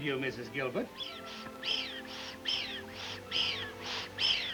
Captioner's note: Stan wheezing